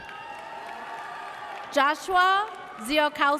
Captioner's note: audience cheers